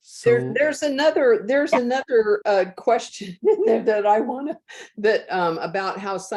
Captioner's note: laughs